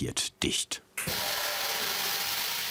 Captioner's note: machine whirring